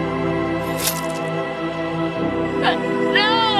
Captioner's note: cutting sound